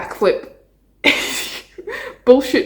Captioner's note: laughs